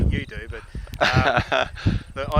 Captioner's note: laughter